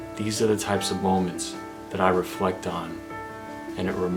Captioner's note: none